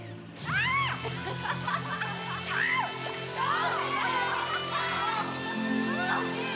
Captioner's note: laughing; screaming